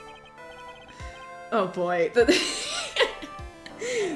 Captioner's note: laughs